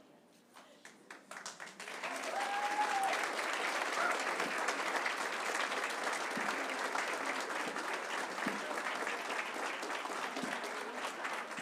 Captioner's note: applause and cheering